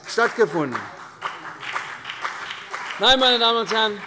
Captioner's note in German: Beifall CDU und BÜNDNIS 90/DIE GRÜNEN